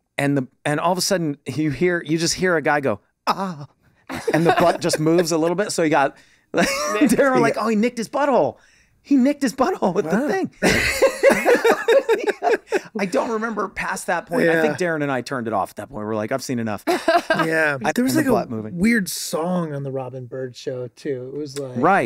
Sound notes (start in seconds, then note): 10.6 all laughing; 16.8 laughing